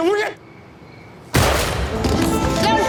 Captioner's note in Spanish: Disparo